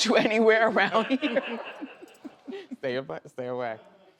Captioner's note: audience laughs; laughs